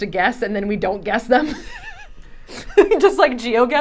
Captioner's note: laughing